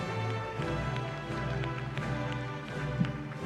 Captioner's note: applause